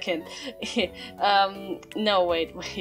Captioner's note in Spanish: se ríe nerviosamente